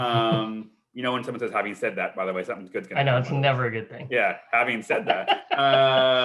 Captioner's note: laughs